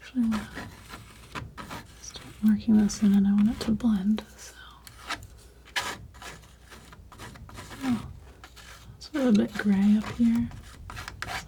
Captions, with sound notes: Actually, I'm going to start marking this in and I want it to blend so [scratching] It's a little bit gray up here